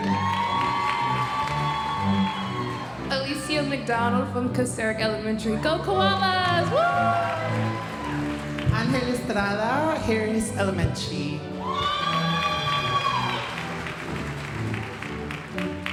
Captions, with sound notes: - Whoo! (audience applauding) - Alecia McDonald from Kocurek Elementary. Go Koalas, whoo. (audience cheering) - Angel Estrada, Harris Elementary. (audience cheering and applauding)